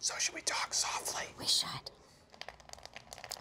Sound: whispering

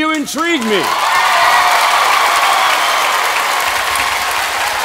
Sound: cheers and applause

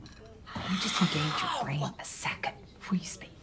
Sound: gasping

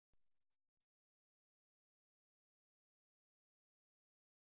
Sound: silence

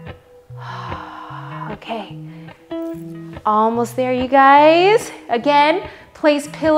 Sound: sighs

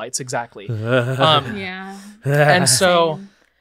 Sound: shivers

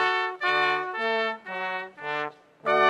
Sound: none

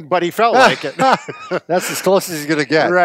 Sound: both laughing

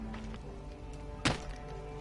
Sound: thwak

